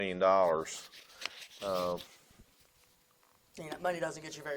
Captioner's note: paper rustling